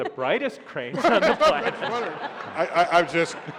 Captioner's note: laughter